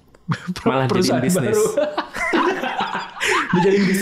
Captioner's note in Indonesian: tertawa